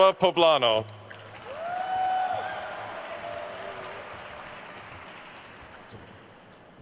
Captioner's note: attendees cheering and applauding